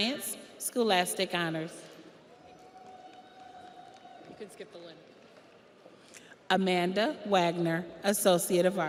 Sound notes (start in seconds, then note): 2.2 audience applauds; 2.3 audience cheers